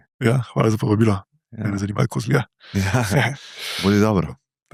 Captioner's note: laughs